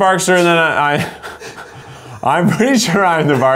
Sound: laughs

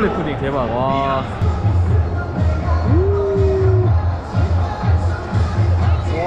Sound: crying

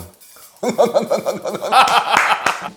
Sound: laughing sound

